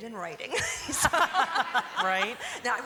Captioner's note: laughter